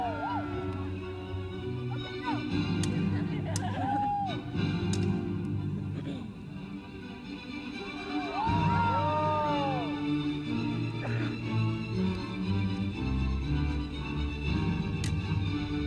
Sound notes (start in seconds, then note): 2.8 swords clack